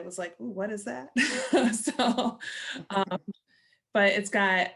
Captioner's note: laughter